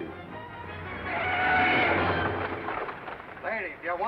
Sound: brakes squeal

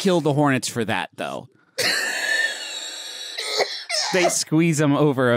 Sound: wheezes

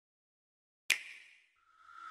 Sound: click

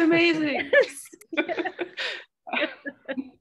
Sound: laughter

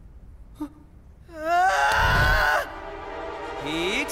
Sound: screams

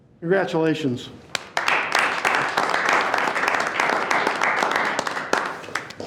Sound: board members clapping

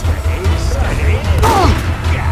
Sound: The IS-2 groans

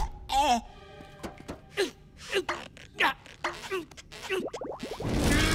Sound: groaning; grunting

